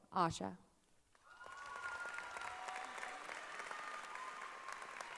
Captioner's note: cheering and applause